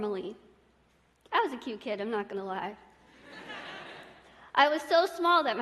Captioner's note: laughter